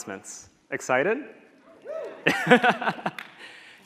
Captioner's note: audience cheering; laughs